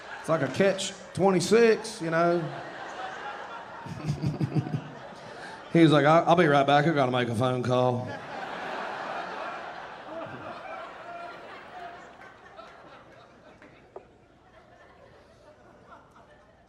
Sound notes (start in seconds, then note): 2.6 audience laughing; 3.8 chuckling; 7.9 audience laughing